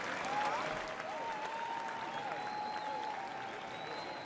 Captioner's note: applause